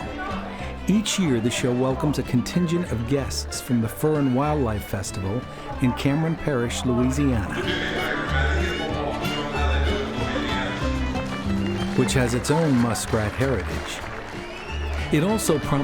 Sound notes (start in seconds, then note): 10.1 clapping